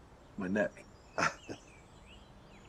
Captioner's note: laughs